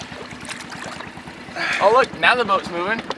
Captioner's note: water splashing